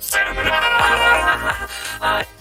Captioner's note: laughs manically